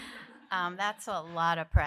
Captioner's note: laughter